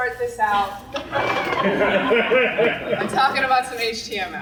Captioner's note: crowd laughs